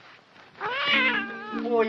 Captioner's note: cat meows